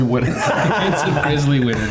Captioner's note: all laughing